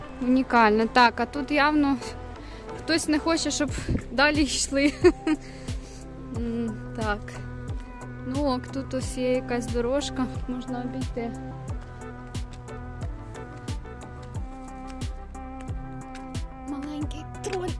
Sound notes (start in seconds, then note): 4.8 laughter